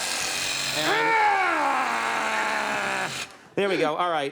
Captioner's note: Conan grunts